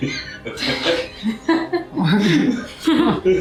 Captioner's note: laughing